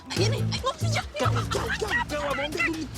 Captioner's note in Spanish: Hablan al unísono